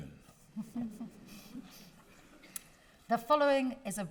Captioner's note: everyone chuckling